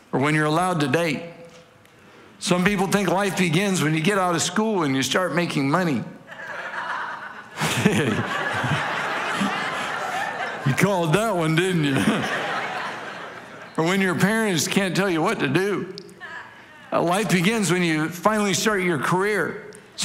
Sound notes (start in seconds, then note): 6.2 congregation laughing